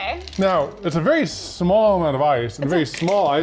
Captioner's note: ice clinking